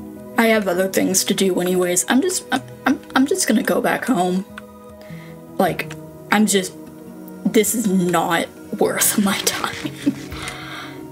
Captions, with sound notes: I have other things to do anyways. I'm just- I- I'm- I'm just gonna go back home. Like, I'm just- this is not worth my time. [laughs]